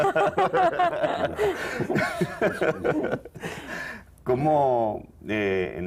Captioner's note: Risas